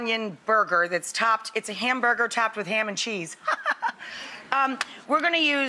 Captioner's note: laughs